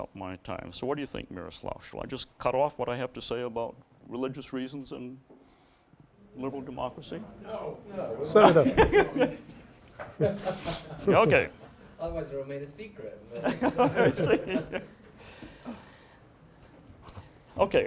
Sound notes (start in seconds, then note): 10.0 laughter